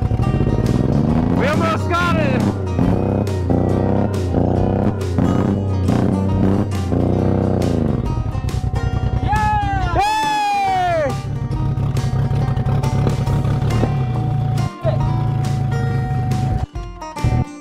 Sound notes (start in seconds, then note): 9.4 both shouting; 12.6 upbeat music; 12.6 vehicle engine roaring